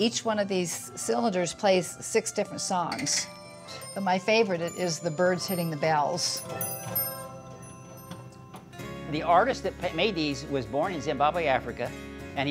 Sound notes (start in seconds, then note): 6.3 bells dinging; 6.3 soft music